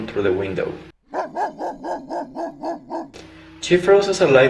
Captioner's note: sound of a dog Barking